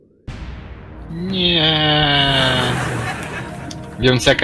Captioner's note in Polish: śmiech publiczności